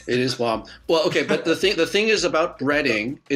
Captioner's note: chuckling